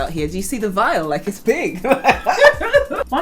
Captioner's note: laugh